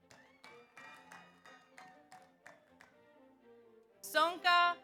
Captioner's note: audience applauds; audience cheers